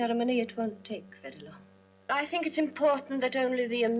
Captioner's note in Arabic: none